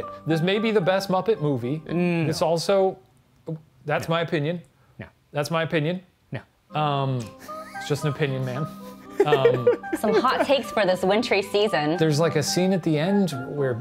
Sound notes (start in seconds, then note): 7.2 laughing